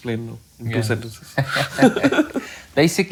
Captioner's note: laughing